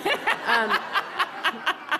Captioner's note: laughter